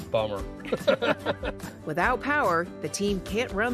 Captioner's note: laughter